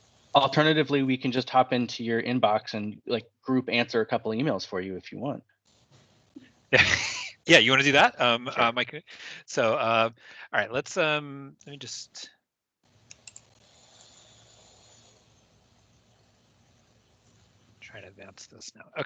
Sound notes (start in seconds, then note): 11.5 laughes